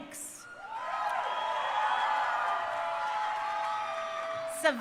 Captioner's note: crowd cheering